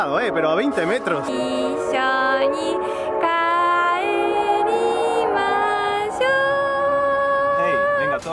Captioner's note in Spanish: en japonés